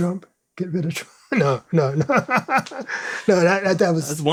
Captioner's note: laughs